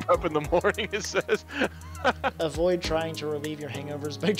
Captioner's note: laughs